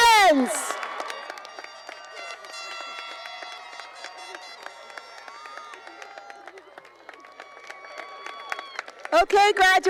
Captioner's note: cheering and applause